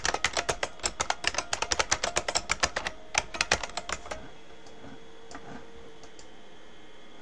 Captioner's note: typing